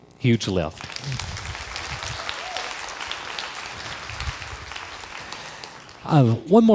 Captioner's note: crowd applause